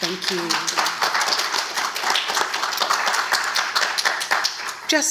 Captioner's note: audience claps